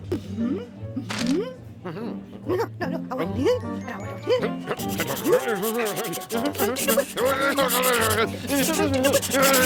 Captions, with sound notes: MM-HMM. MM-HMM. NOW--NOW--NOW, I WANT THIS. AND I WANT THIS. (scribbling hastily) MM-HMM. MM-HMM. (speaking rapidly)